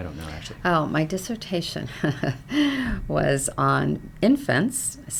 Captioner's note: chuckles